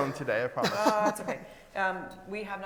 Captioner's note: laughs